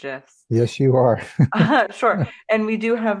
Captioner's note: laughter